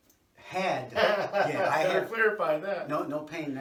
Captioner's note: laughs